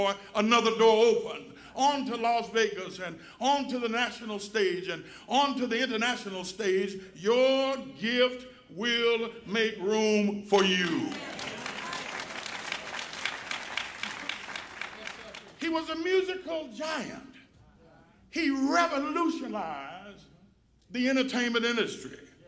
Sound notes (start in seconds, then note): 10.6 applause